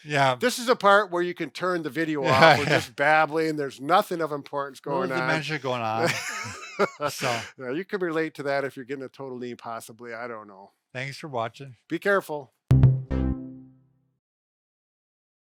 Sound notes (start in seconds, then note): 6.0 laughs; 12.7 upbeat music